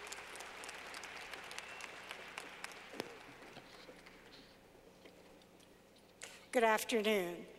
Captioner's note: clapping